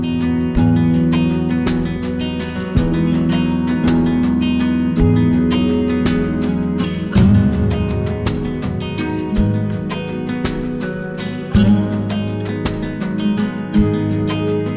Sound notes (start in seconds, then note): none